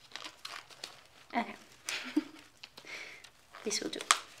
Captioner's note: chuckles